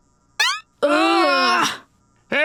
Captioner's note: groaning